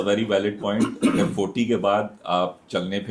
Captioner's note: clearing throat